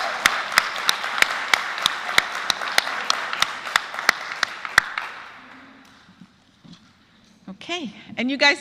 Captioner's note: applause